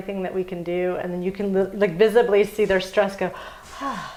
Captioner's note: exhales